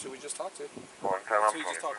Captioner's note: radio chatter